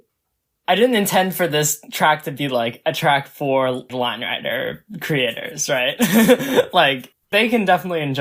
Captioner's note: laughs